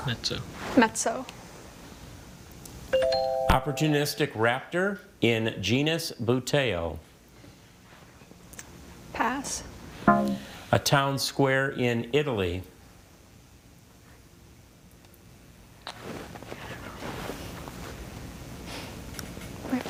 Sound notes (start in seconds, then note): 3.0 text chiming; 10.4 text buzzing